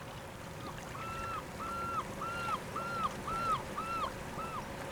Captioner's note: birds calling